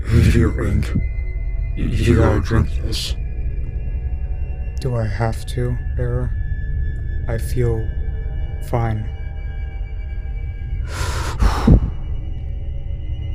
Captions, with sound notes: Error:Here Ink, you got to drink this. Ink:(Emotionless)Do I have to, Error? I feel...fine... Error:(Deep Breath)